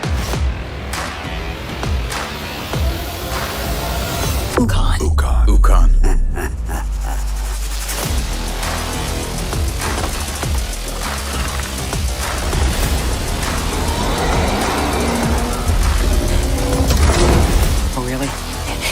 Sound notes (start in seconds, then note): 6.0 laughing